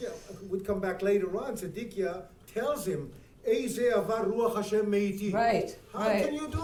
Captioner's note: speaking in foreign language